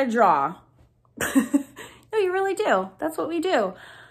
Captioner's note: laughs